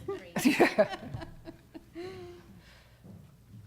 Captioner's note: laughter